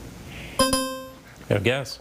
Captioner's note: timer chiming